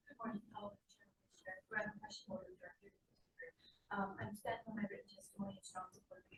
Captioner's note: faintly speaking